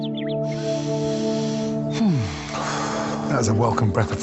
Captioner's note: birds chirping; serene music; sighs